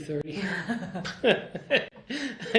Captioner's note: laughter